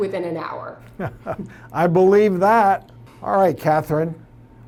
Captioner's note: laughs